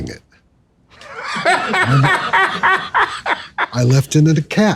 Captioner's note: laughing